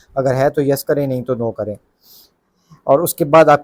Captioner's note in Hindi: नाक से की जाने वाली आवाज़